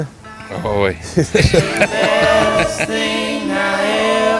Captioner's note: laugh